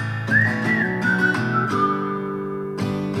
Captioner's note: whistles